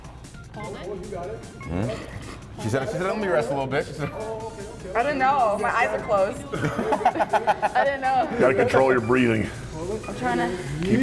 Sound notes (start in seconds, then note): 6.2 laugh